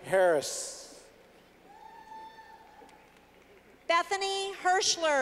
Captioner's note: clapping